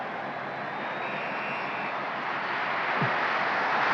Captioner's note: referee blowing whistle; crowd cheering